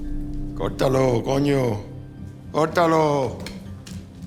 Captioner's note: speaking spanish